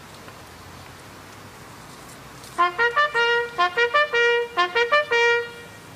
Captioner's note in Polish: Sygnał "Baczność"